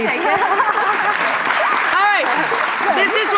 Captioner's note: applause